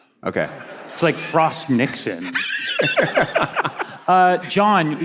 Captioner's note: laughs